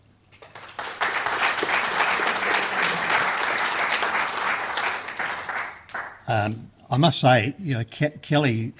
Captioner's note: applause